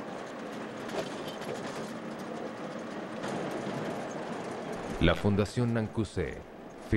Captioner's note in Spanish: sonido automotor